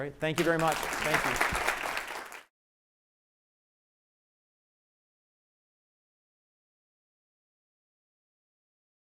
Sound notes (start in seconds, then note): 0.3 applause